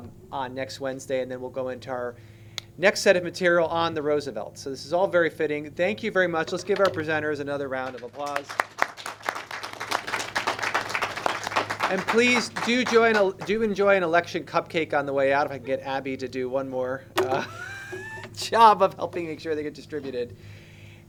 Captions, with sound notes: on next Wednesday. And then we'll go into our next set of material on the Roosevelts. So this is all very fitting. Thank you very much. Let's give our presenters another round of applause. [clapping] And please do join. Do enjoy an election cupcake on the way out. If I can get Abby to do one more [laughs], job of helping make sure they get distributed.